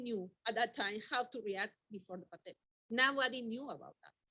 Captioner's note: speaking faintly